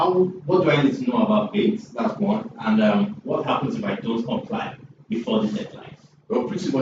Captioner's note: laughs